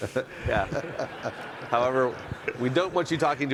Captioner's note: audience laughing